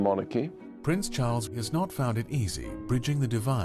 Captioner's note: voiceover